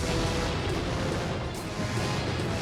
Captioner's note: explosions